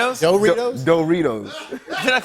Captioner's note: laughter